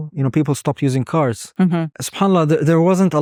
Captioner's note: speaking Arabic